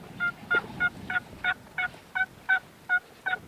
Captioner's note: turkey call